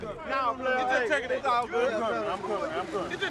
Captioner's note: men bustling; men talking